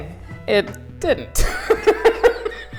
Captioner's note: laughter